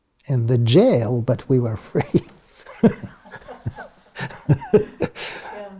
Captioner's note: laugh